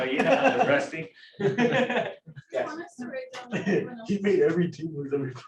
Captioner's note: laughter